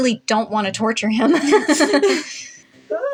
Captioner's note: both Laugh; Mr. Invisible Yelps